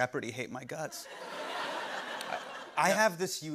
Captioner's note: laughter